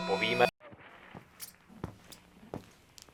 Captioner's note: footsteps, television noise; clang